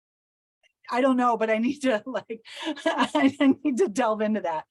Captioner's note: chuckles